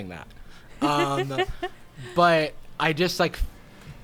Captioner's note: laughing